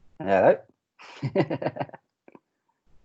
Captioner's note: laughs